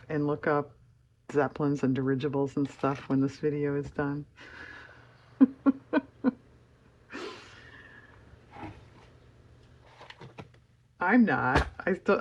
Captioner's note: laughs